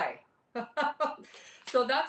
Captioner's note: laughs